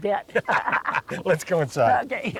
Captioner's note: laughter